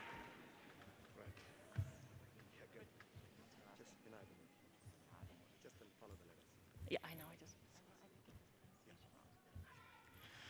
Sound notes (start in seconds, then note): 3.3 people chattering